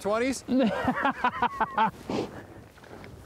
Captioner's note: laughing